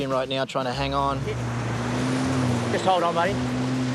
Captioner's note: jet ski engine roars